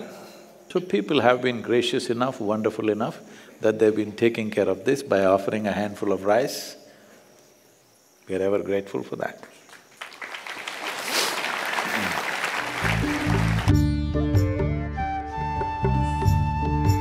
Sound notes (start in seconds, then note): 9.6 applause